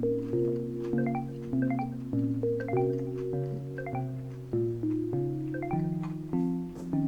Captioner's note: multiple message alert